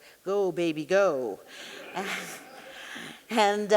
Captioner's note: audience laughing; chuckling